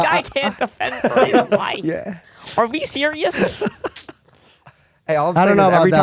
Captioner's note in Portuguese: risos